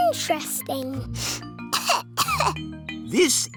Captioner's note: sniffs and coughs